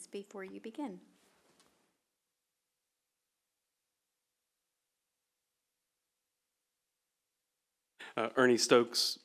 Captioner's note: silence